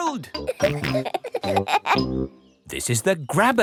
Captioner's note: peppa and george laughing